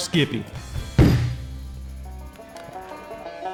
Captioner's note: jar thudding; upbeat banjo music